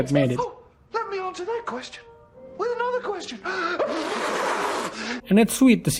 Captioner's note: blows raspberry